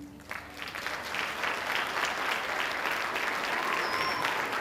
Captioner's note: audience applauding